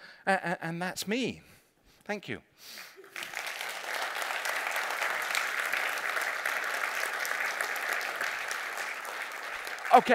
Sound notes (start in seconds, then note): 3.0 applause